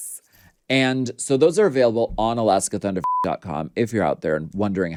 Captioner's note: beep